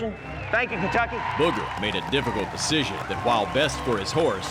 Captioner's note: cheering